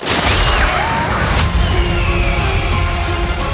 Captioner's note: loud shrieking